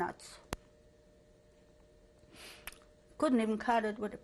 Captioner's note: pauses for 3 seconds